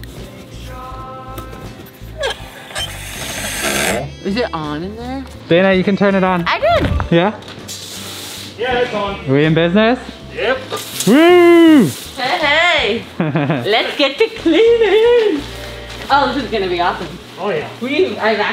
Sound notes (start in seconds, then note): 2.7 faucet squeaking; 12.9 laughing